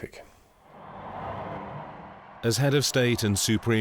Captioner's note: crowd cheering